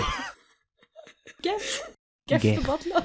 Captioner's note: laughter